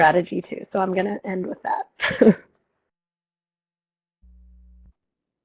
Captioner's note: chuckles